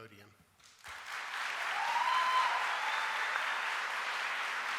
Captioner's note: audience applauding